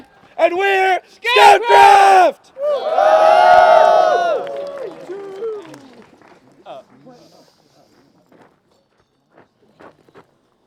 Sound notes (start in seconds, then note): 2.5 cheering; 6.7 applause